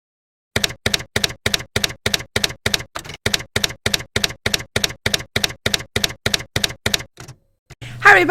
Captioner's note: typewriter keys clacking